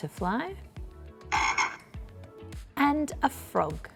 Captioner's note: frog croaking